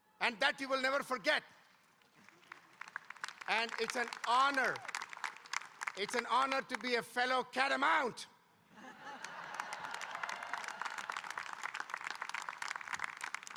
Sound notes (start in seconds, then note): 1.7 audience applauding; 8.8 audience laughing and applauding